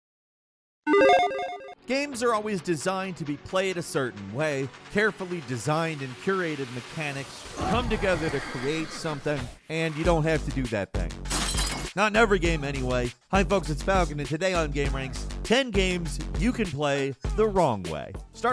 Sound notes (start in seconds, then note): 0.9 buttons beep; 11.2 glass shatters